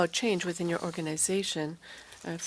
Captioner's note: speaking french